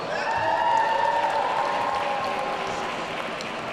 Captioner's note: audience cheering